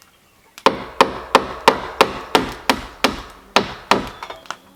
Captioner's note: hammering